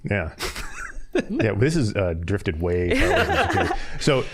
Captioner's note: all laughing; laughing